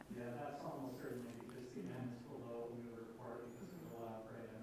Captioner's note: man speaking off mic